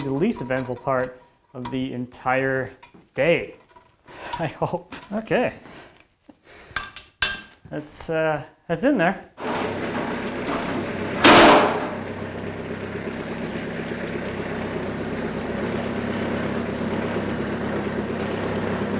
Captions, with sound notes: the least eventful part of the entire day, I hope. Okay. That's that's in there. (heavy machinery rumbling)